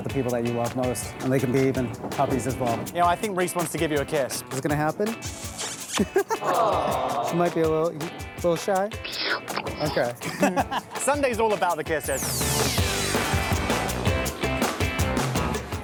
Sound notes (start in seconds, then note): 5.5 smooch; 5.8 laughs; 9.0 slurp slurp; 12.1 bright upbeat music